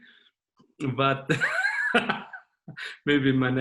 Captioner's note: chuckling